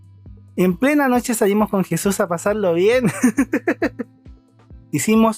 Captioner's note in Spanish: risas